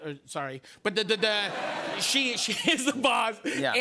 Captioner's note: laughter